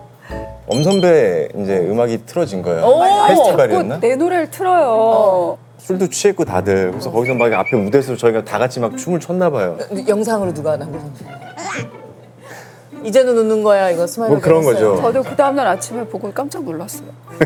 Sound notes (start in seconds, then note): 11.5 gulp